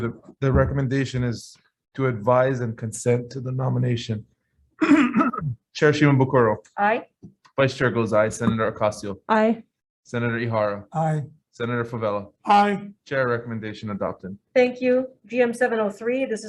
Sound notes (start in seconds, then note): 4.8 clears throat